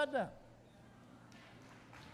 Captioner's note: applause